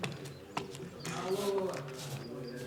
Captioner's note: indistinct chatter